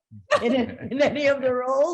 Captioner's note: laughing